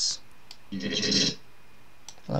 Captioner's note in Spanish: sampleo de sonido